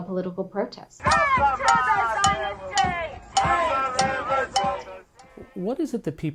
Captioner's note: crowd